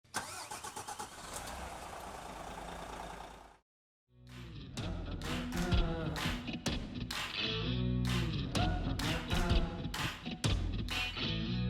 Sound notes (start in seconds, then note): 0.0 engine starts; 4.3 dramatic orchestral music